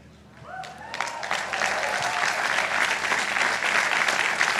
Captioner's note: audience applauding